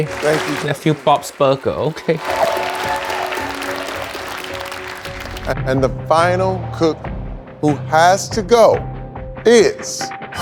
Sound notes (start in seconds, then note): 3.1 crowd claps